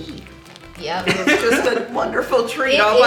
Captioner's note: laughing